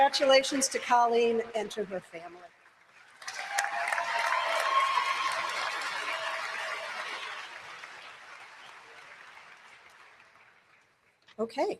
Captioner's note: applause